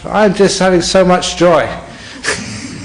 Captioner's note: laughter